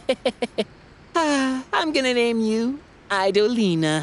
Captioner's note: chuckles; sighs